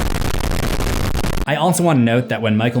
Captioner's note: static rumbles